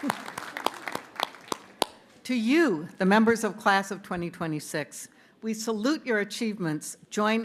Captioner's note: cheers and applause